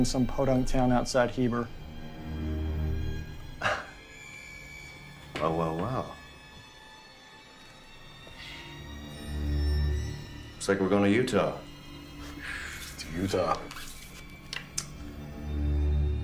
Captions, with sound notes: in some Podunk town outside Heber. (Dmitri chuckles) - Well, well, well. Looks like we're going to Utah. - To Utah.